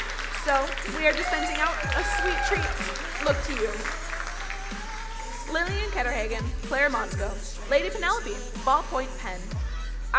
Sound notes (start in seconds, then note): 3.9 crowd applauding; 3.9 upbeat music